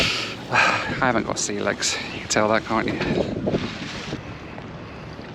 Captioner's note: sighs